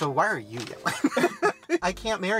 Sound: both laughing

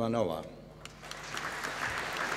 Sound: applause

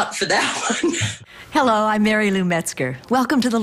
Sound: laughs

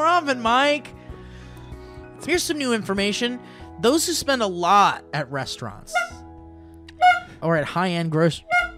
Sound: honk

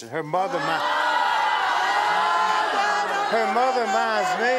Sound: audience yelling

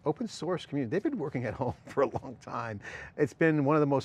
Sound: laughs

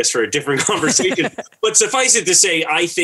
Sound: laughter

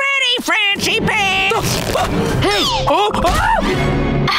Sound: groaning

